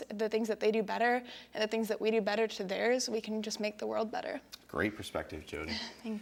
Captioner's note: none